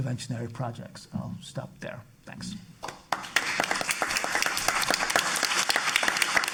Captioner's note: audience applauding